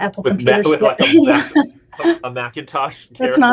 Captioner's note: laughs